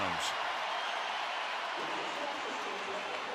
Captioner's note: crowd cheering